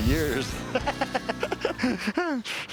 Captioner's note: laughs